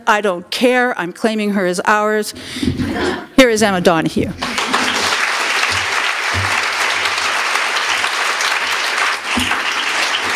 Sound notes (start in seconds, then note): 6.8 applause